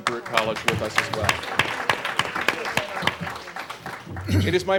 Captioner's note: applause